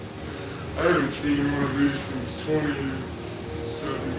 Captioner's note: laughs